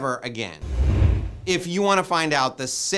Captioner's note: air whooshing